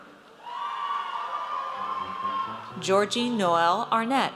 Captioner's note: audience cheers